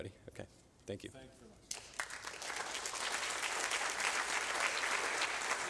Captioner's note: applause